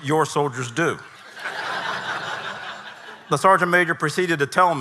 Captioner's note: audience applauding